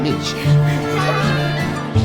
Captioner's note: laughter